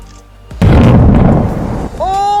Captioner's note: volcano errupts